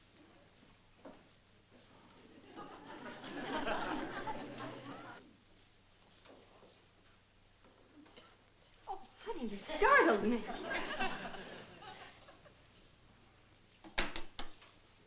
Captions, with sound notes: [LAUGHTER] Oh, honey! You startled me.